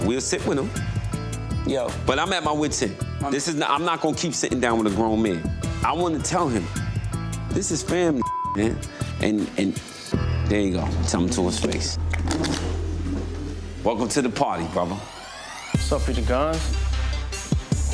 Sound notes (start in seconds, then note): 8.2 beep